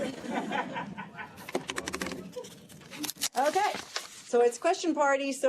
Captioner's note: laughter